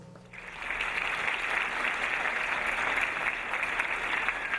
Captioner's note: audience applauding